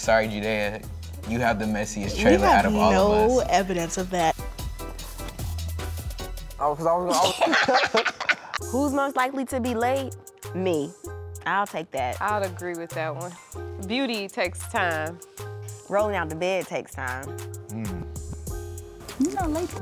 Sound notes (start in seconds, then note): 7.1 laughter